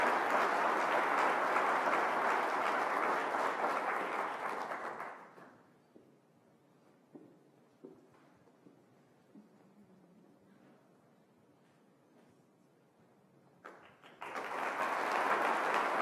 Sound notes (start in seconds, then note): 5.0 applause